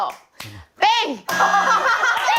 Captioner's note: buzzer